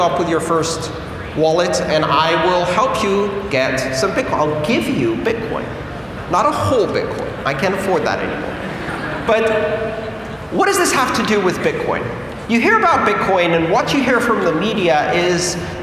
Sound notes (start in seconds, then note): 8.4 laughter